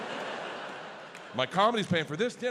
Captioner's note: audience laughs